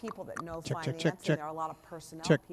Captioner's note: tongue clicking